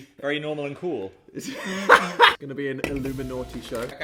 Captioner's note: laughing